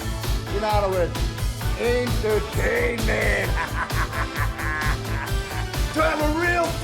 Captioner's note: laugh